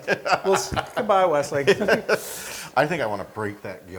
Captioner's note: laugh